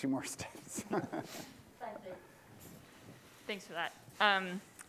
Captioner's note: laughter